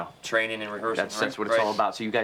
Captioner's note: voiceover